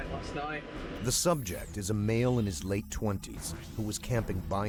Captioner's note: voiceover